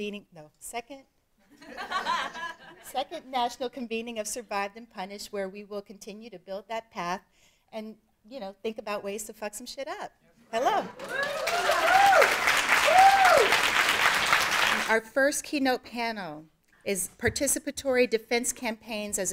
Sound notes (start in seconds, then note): 1.6 audience laughing; 10.8 audience cheering; 10.9 audience applauding